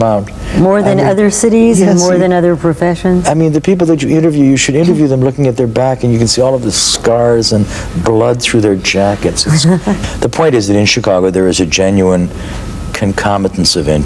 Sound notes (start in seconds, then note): 9.5 laugh